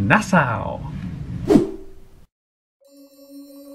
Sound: screen whooshing; magical music

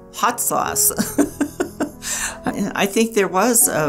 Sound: laughing

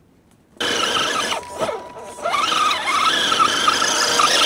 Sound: engine noises

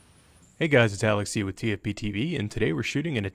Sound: voiceover

